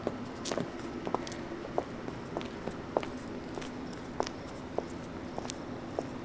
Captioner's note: footsteps on concrete